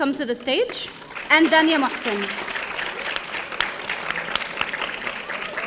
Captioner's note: audience applauding